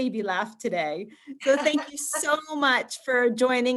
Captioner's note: chuckles